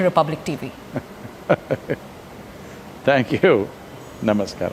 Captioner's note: laughs